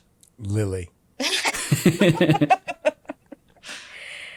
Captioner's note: all laughing